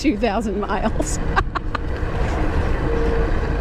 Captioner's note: laughter